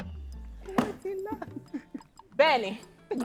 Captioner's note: laughs